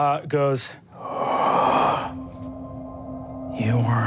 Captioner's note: inhales